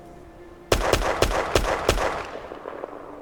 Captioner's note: gunshots